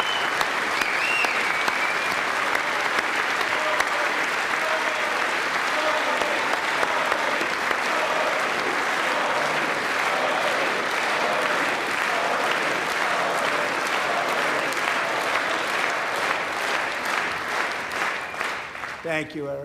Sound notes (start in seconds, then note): 7.1 applause